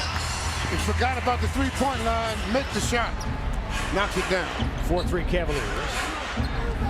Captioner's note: cheers and applause